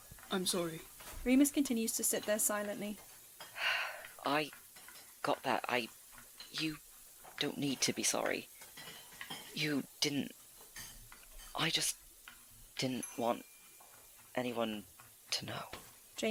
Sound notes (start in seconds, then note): 3.5 Remus lets out a breath